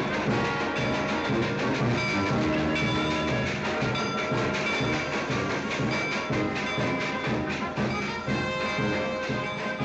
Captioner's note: marching band playing; train chugging; band playing loudly